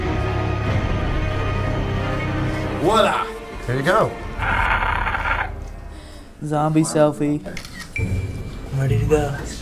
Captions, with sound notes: -Voila! Here you go. -[CROAKS] Zombie selfie. I'm ready to go.